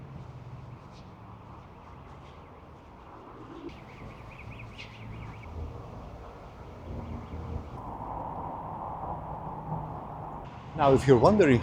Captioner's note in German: Vögel zwitschern